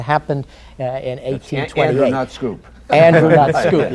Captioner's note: laughter